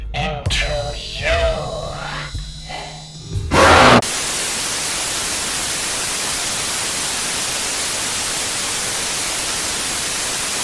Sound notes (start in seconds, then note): 3.7 Static; 3.7 roars